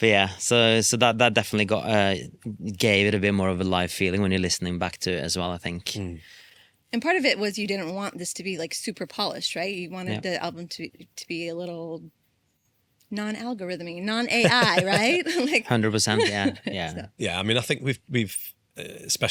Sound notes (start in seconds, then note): 14.3 laughs; 14.3 laughing